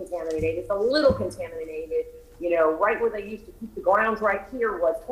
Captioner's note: ~distortion~